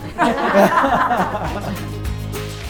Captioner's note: people laughing